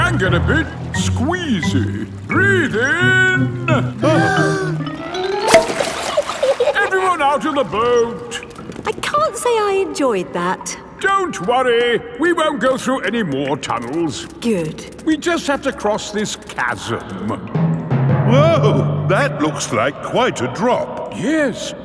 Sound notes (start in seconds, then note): 4.3 breathing in